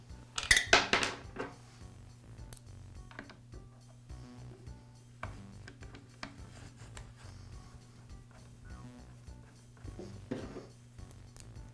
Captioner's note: pause